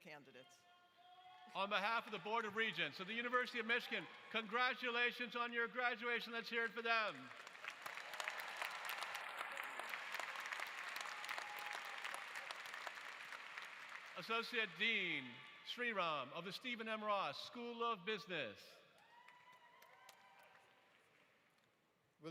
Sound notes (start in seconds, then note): 10.5 applause